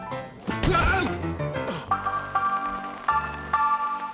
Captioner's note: <i> groans</i>